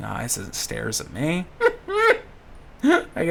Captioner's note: giggles